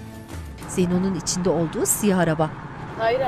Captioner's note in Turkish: Araba sesi